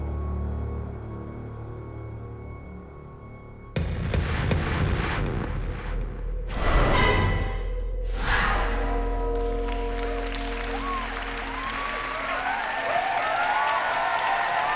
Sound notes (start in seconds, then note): 9.7 cheering